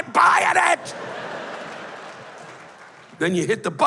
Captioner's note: laughter